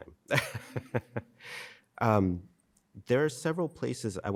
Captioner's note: laughing